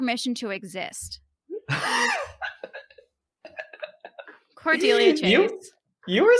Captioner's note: laughing